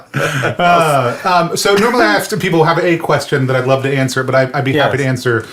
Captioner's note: laughs